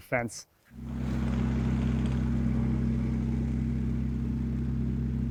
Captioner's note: tractor rumbles